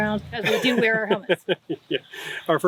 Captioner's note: laughing